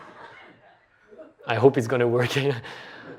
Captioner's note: laughter